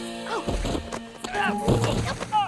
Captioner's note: Nigel thuds; Prudence thuds